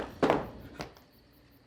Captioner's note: thumping sound